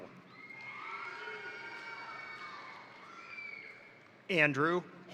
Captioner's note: crowd cheering; crowd applauding